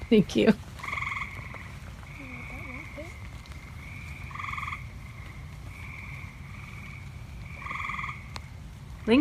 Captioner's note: sounds of frogs calling from a marsh on a rainy summer evening